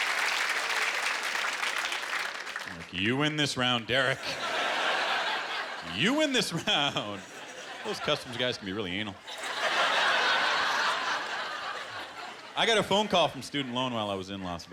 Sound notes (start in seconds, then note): 9.1 laughter